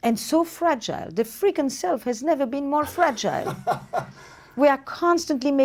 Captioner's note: laughs